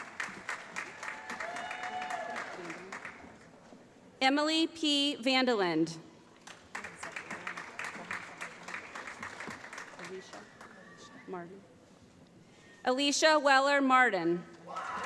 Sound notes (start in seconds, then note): 0.0 applause; 6.4 applause